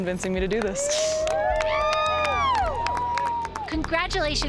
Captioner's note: crowd cheering